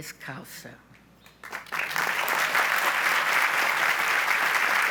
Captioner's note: audience applauds